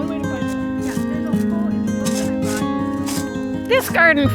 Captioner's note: background chatter